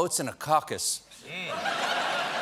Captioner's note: laughter